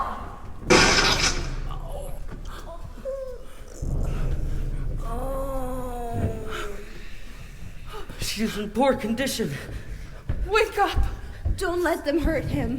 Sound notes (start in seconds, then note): 0.6 crushing sound; 5.1 moaning